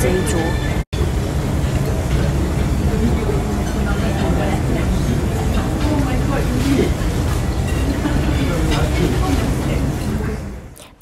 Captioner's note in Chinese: 吃東西的聲音